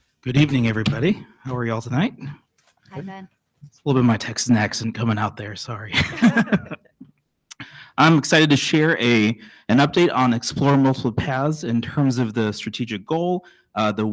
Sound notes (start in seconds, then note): 5.9 laughs